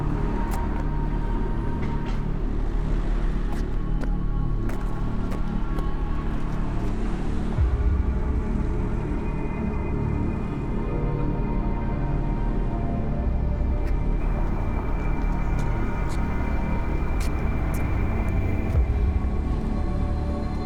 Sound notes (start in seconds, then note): 5.0 faint traffic noise; 8.6 ominous music; 14.2 footsteps scrape; 15.4 ominous music